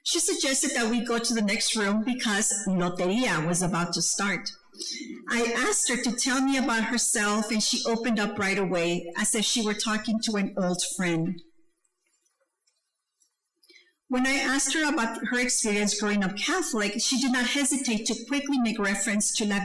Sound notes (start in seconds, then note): 2.5 speaking foreign language